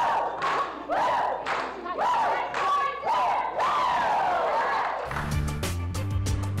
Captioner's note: clapping and cheering